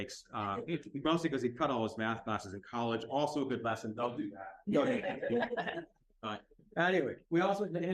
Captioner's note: laughter